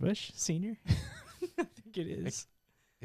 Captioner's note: laughing